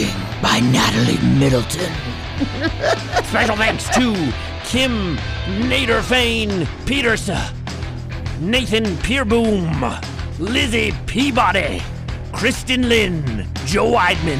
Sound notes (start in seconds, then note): 0.6 laughs